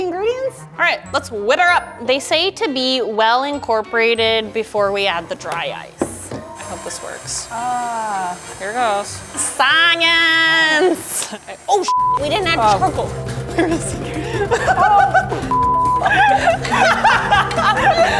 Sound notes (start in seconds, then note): 11.8 beeping; 15.9 laughing